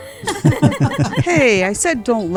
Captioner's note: laughter